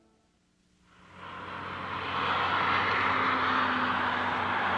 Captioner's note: gentle instrumental music; traffic rumbles